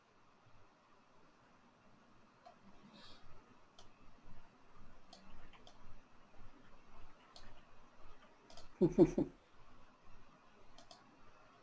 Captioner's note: silence